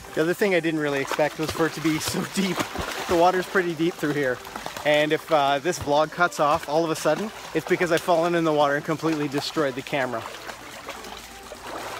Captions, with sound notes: The other thing I didn't really expect was for it to be so deep. (water splashing) The water is pretty deep through here, and if this vlog cuts off all of a sudden it's because I've fallen in the water and completely destroyed the camera.